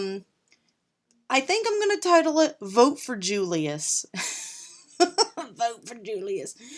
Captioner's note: laughing